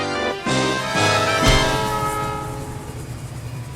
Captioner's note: train honking